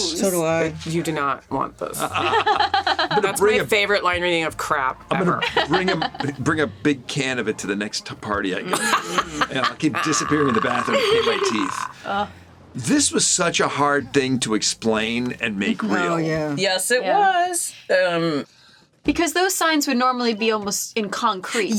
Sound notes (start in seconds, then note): 2.0 laugh; 8.7 laughs